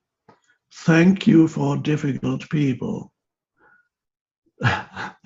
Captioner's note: laughs